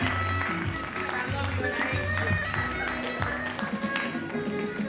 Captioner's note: announcer faintly speaking